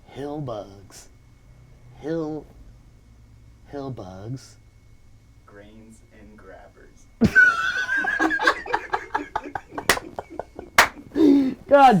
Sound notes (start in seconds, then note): 7.2 laughing; 9.7 clapping